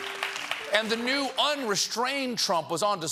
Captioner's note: applause